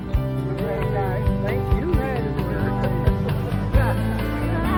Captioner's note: climbers chatting